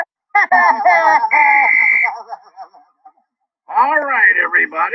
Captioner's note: whistle blowing